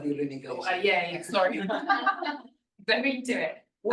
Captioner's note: laughter